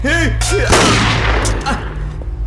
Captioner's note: gunshot